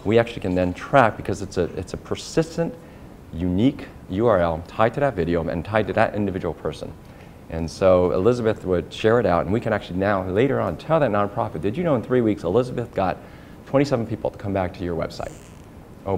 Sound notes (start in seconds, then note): none